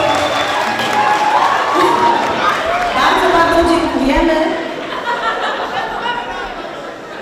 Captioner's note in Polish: Aplauz